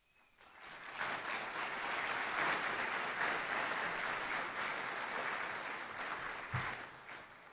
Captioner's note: applause